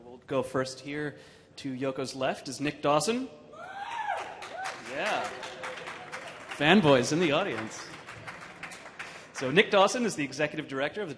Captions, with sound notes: We'll go, first here to Yoko's left is Nick Dawson. (audience cheering) (audience clapping) Fanboys in the audience. So Nick Dawson is the Executive Director